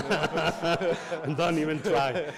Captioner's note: audience laughs